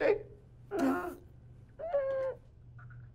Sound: Buster makes pained noises

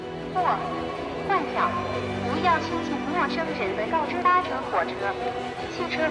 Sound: voice speaking Chinese over radio

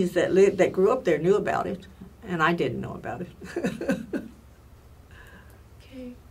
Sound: laughs

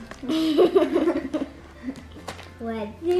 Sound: laughs

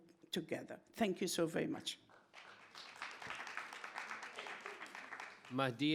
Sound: audience applauding

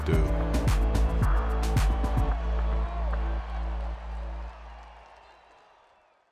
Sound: upbeat music; crowd cheering

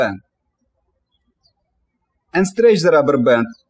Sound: birds chirping

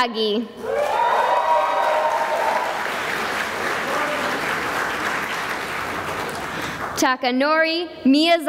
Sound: cheering and applause

